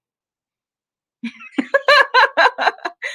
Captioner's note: laughter